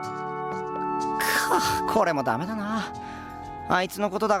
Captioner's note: sigh